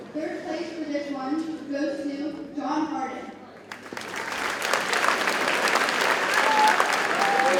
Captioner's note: audience cheers and applauds